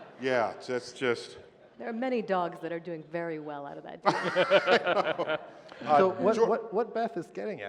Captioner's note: laughter